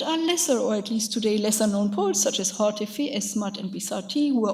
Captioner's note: speaks in a foreign language